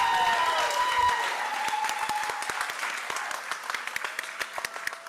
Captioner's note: applause